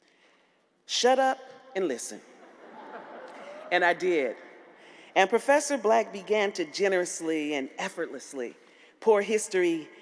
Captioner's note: laughter